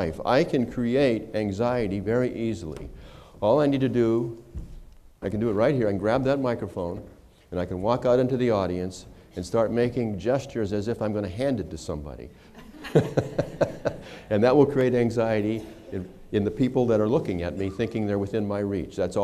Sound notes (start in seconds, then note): 12.5 laughter